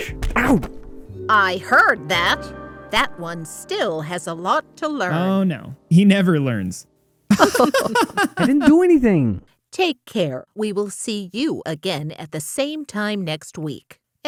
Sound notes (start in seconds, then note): 7.3 laughing